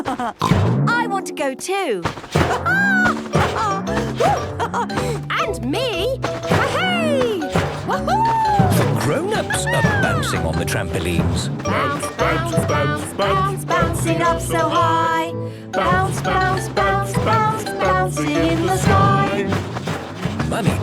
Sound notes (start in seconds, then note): 0.0 laughs; 3.5 laughs